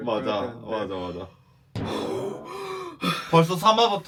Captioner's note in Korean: 호흡 곤란